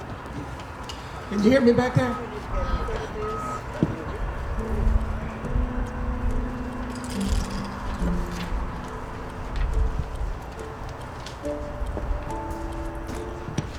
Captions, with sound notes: Can you hear me back there? (mechanism beeping distantly)